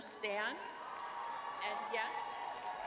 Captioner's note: crowd cheering